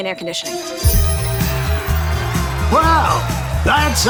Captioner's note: upbeat music; buzzer beeping